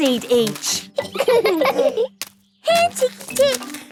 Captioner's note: laughing